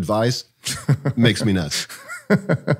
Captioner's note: chuckles; laughs